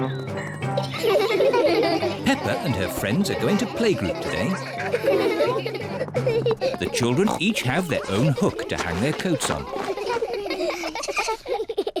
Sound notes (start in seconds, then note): 0.7 all laugh; 9.7 all laugh